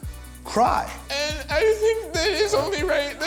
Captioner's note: fake crying